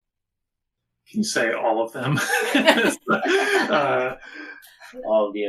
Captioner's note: laughing